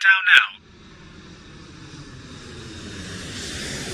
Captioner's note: airplane approaches runway